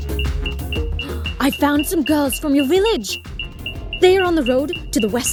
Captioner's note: app beeping; gasps